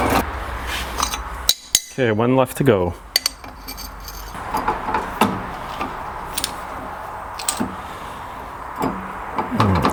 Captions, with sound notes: (metal clanging) Okay, one left to go. (metal clanging)